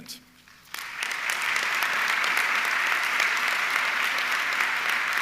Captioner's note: audience clapping